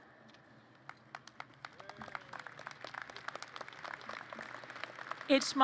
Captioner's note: applause